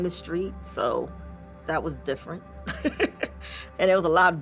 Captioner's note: laughs